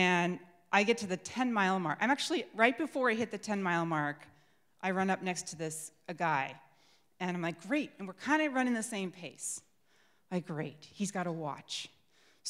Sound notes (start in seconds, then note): none